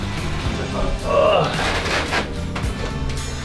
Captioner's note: grunting